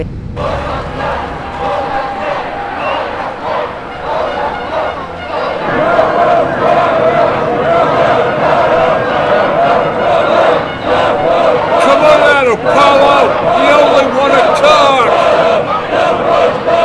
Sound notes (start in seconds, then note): 0.8 crowd chants; 6.5 crowd chanting